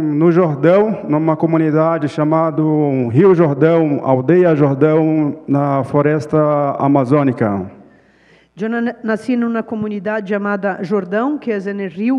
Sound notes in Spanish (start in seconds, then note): 0.2 Ponente habla en portugués